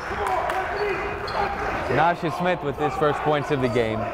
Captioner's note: clapping